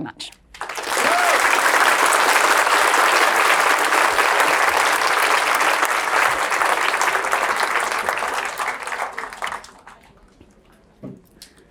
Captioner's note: applause